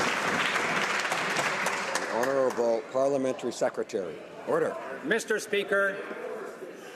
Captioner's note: some Applause